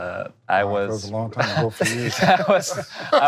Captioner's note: laughing